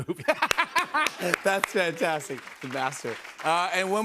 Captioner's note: laughs